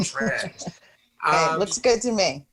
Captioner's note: chuckles